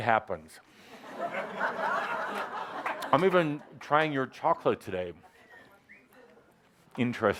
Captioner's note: laughter